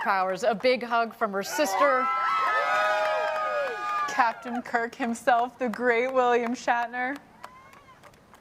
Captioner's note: cheering